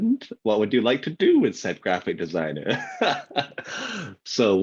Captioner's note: laughs